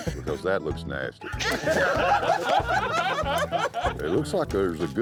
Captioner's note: laughter